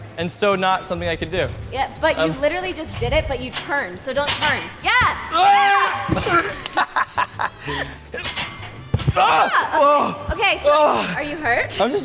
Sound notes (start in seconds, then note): 5.3 Derek screams; 6.1 both laugh; 6.5 grunts; 9.4 gasps